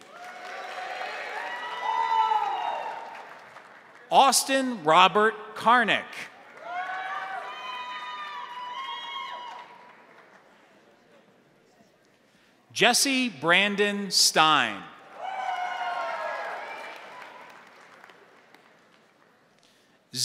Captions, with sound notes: (crowd applauding) (crowd cheering) Austin Robert Karnik. (crowd applauding) (crowd cheering) Jesse Brandon Stein. (crowd applauding) (crowd cheering)